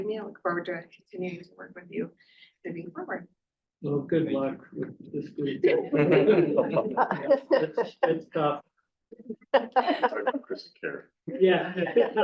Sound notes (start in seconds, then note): 6.4 board member laughing